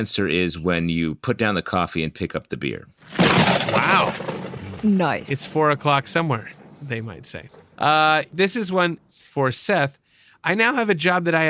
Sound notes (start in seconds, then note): 3.0 lightning strikes